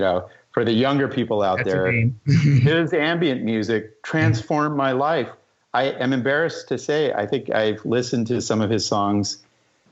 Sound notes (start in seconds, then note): 2.3 laughter